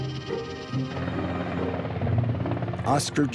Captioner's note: blades whirring